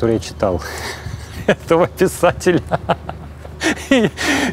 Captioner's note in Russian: сквозь смех